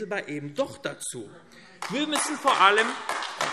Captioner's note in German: Beifall AfD